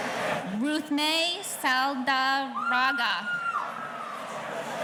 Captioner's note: audience cheering